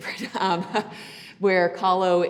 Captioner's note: laughing